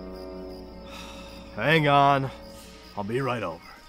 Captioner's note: sighing